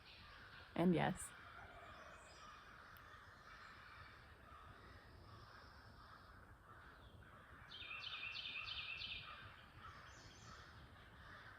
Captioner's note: birds sounding